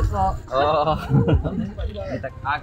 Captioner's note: laugh